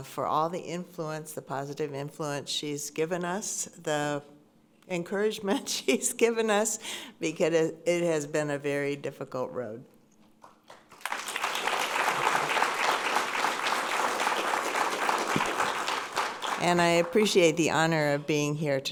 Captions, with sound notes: for all the influence, the positive influence she's given us, the encouragement she's given us because it has been a very difficult road. (audience applauding) And I appreciate the honor of being here